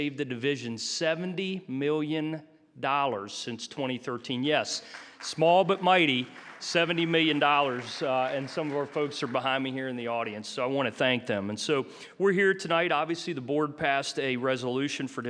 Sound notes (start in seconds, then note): 7.4 audience applauding